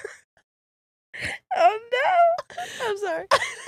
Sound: both laughing

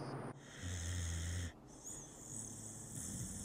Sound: light snoring

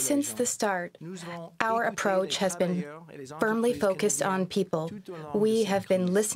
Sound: speaking French

